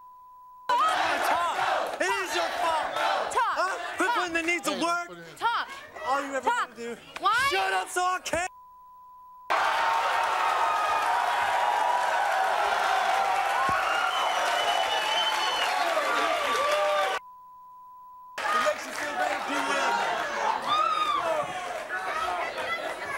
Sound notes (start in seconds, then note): 0.0 beep; 8.4 beep; 9.5 audience cheering; 17.2 beep; 20.3 audience cheering